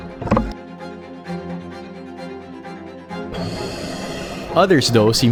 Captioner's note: image clunks; orchestral music continues; image clunks; air hisses